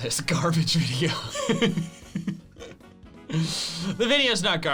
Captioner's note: laughing